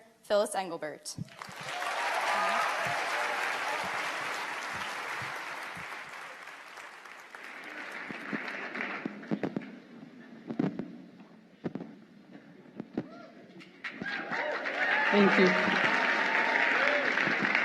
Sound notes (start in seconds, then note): 6.2 applause